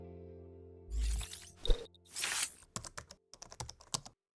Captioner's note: logo whirls